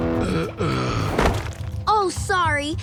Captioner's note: groaning